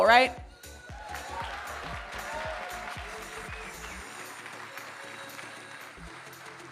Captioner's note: audience cheering and applauding